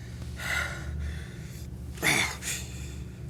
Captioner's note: exhales deeply then moans